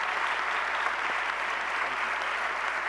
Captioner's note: applause